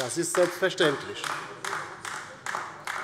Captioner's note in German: Beifall bei der LINKEN